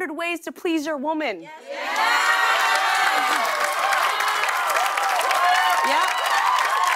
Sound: cheers and applause

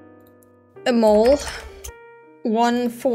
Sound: typing

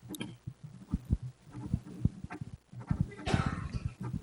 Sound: pen scribbles

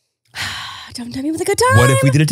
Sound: sighing

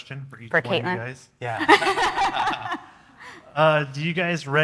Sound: everyone laughing

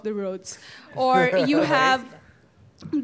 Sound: laughing

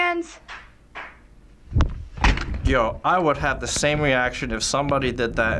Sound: unknown person clapping

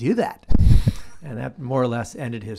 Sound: laughs

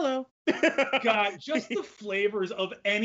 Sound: both laugh

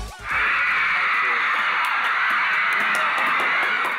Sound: applause~

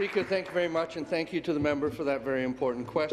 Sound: applause

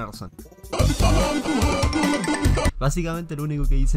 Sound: movistar sounds

